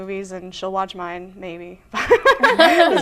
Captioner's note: laughter